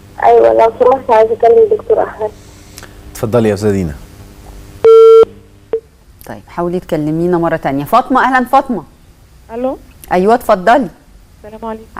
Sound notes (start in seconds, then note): 4.8 disconnected tone